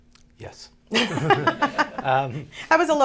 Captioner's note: laughter